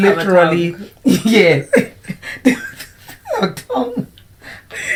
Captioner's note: laughter